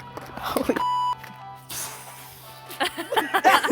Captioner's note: beep